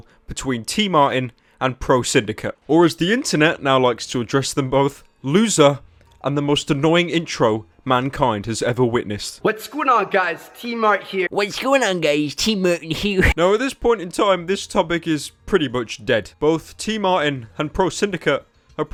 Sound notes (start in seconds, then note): 11.3 accurate voice impression